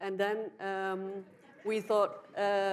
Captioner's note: audience laughs